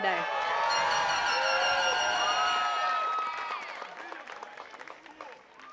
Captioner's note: attendees cheering and clapping